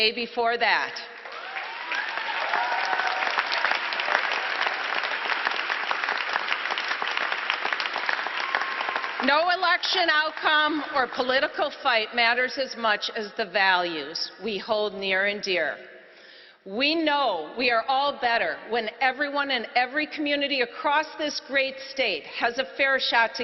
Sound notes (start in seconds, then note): 6.3 applause